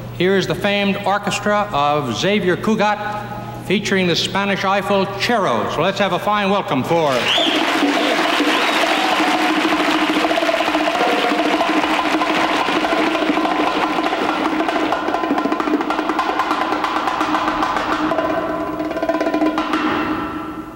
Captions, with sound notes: here's the famed Orchestra of Xavier Cugat featuring the Spanish eyeful Charo So let's have a fine welcome for 'em [audience applauding] [bongo drum music]